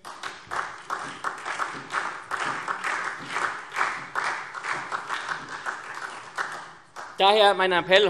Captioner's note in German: Beifall SPD